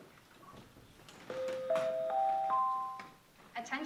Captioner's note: ding, ding, ding, ding